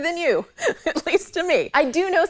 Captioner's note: laughs